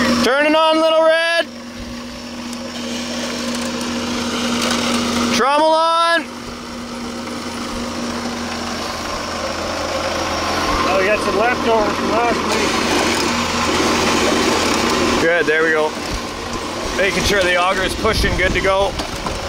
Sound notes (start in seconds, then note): 7.0 machines humming